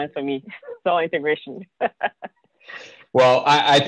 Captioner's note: chuckles